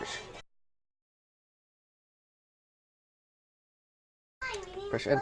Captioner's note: silence